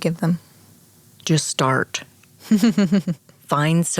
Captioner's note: chuckles